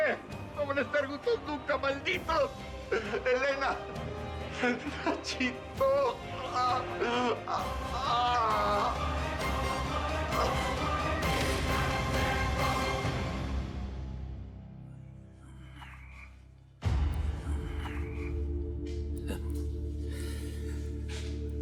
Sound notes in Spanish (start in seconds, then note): 3.4 habla entre dientes; 5.3 habla entre dientes; 5.8 quejidos